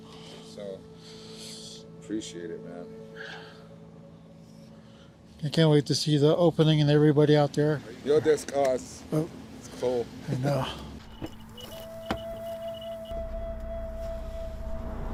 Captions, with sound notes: So appreciate it man. I can't wait to see the opening and everybody out there. [speaking in Navajo]